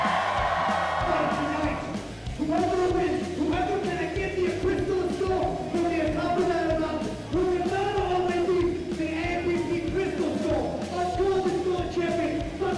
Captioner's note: crowd cheering